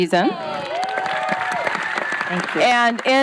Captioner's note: cheering